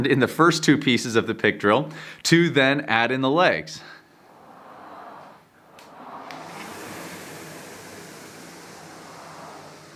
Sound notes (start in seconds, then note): 4.2 machine whizzing